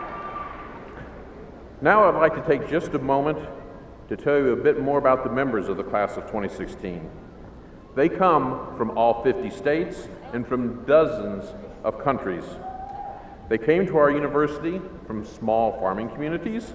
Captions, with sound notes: [APPLAUDING] THANK YOU. I WANT TO TAKE JUST A MOMENT TO TELL YOU A BIT ABOUT THE MEMBERS OF THE CLASS OF 2016. THEY COME FROM ALL 50 STATES AND FROM DOZENS OF COUNTRIES.